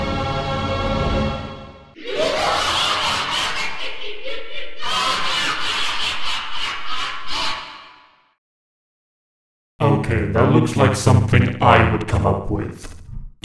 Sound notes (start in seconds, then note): 2.0 laugh